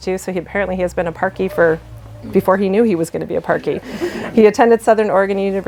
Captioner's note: laughter